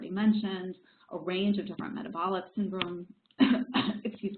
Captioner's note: coughs